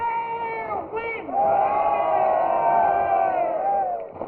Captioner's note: all cheering